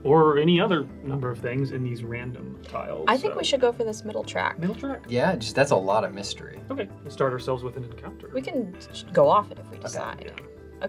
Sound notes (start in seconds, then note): none